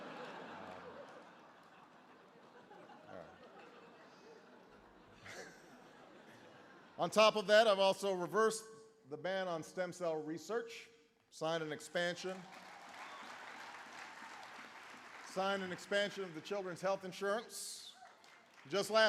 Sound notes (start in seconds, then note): 0.0 laughter; 11.9 applause